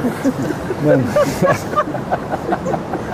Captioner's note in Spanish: Risas